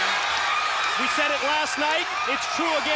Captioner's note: crowd cheers